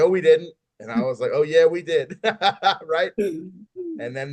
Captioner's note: laughs